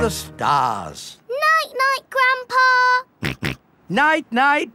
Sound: snorts

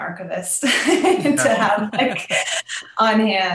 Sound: both laughing

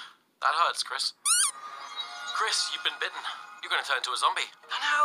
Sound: squeeky noises

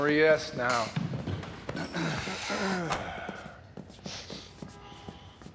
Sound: clears throat

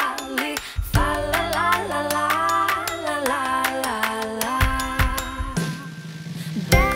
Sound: rhythmic clapping

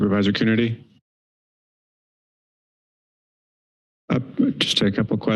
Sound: silence

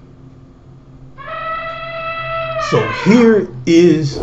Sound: elephant trumpets

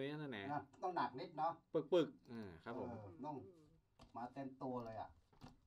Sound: speaks in a foreign language

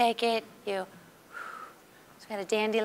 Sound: exhaling softly

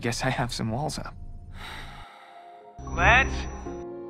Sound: breathes out

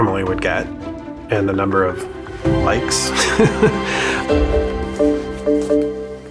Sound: laughs

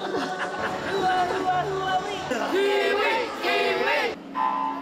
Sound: laughs; chanting; starting klaxon

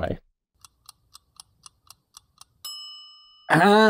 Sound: clock ticking

